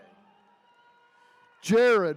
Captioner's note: attendees cheering